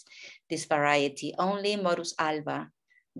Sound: speaking in a foreign language

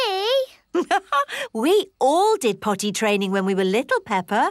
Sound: laughs

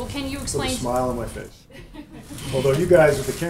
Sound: laughter

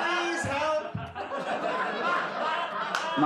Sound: laughter

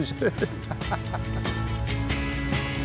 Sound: laughter

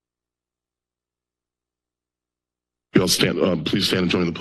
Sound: silence

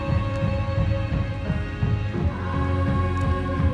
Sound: heartbeat pulsing

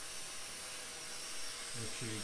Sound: buffing sound

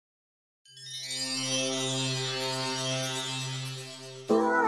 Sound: magical chimes; upbeat music

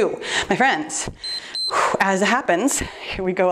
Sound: timer beeps

